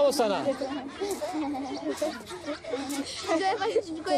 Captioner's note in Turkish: Çocuklar gülüyor